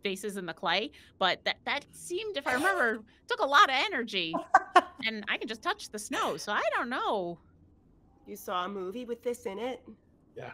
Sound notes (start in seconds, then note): 4.3 laughs